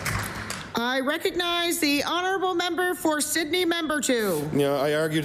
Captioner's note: applause